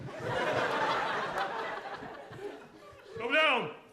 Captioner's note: audience laughing